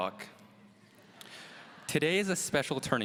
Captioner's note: audience laughs